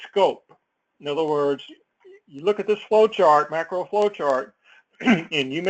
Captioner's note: cough